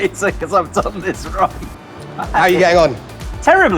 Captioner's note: laughs